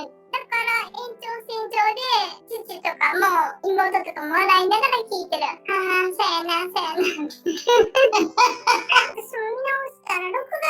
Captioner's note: laughs